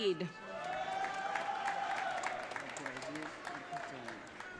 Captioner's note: audience cheering